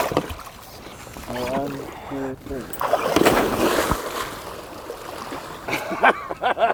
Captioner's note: water splashes; laughing